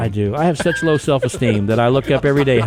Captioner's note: podcasters laughing